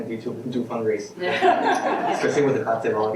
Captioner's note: laughing